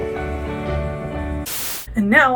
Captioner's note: static